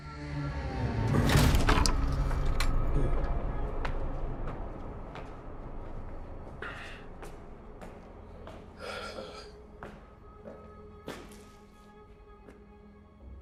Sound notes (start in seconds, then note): 0.1 ominous music; 8.8 Lucian exhales heavily